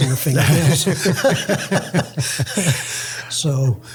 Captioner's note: laughs